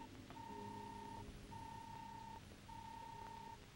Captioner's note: robot beeping